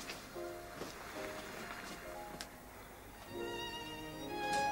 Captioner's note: none